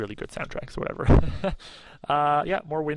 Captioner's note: chuckles